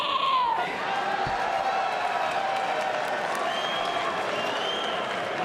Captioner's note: crowd cheers and whistles